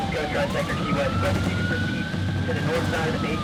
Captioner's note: sirens